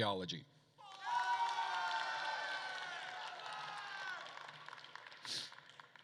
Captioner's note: attendees cheering and applauding